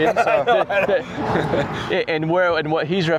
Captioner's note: all laughing